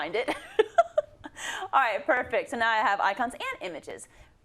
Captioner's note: laugh